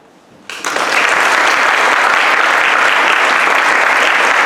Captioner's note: audience applauds